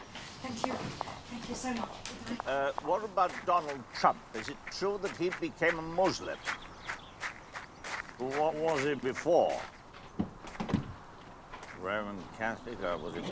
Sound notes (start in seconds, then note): 6.5 steps crunching on pebbles